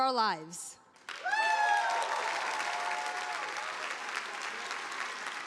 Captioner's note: audience applauding